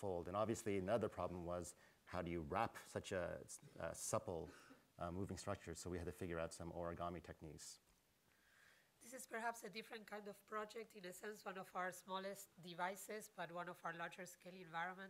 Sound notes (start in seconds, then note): none